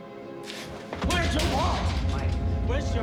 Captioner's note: bangs bars